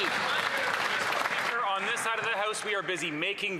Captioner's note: some Applause